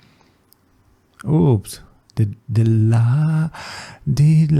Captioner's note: inhale